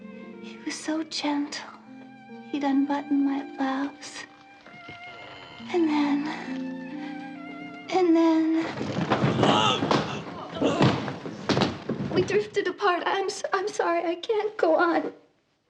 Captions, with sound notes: He was so gentle. He'd unbutton my blouse... ...and then.... And then.... [MAN GRUNTS] We drifted apart. I'm sorry. I can't go on.